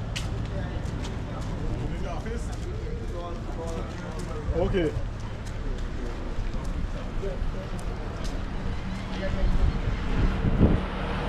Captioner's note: street sounds